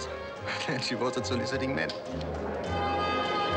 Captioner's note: chuckles